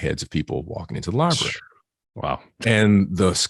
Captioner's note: blows out